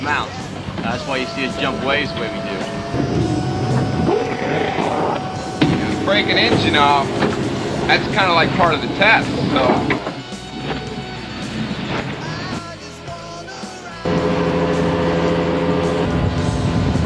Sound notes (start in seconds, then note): 3.3 motor revving; 14.0 running motors